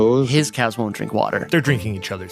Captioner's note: speaking Danish